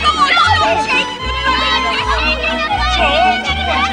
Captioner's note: clamouring